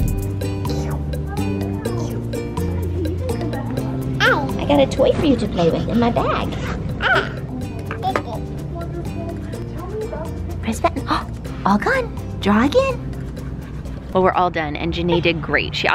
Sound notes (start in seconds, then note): 0.1 relaxing music; 7.0 babbles; 11.2 gasps